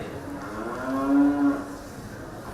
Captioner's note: Milky-White moos